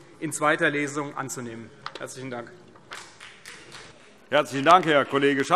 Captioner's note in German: Vereinzelter Beifall CDU und BÜNDNIS 90/DIE GRÜNEN